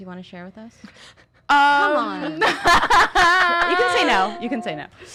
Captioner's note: laughing